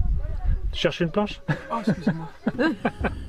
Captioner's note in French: rires